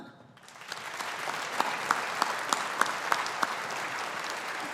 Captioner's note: audience applauding